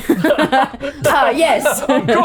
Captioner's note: all laughing